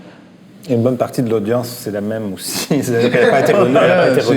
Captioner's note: laughs